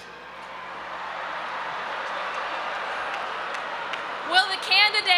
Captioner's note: audience applauding and cheering